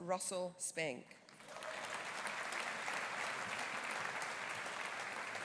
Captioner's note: audience applauding